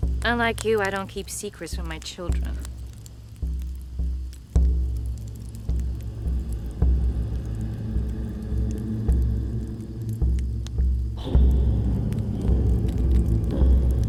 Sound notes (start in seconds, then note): 3.4 dramatic music; 4.6 fire crackling; 6.9 dramatic music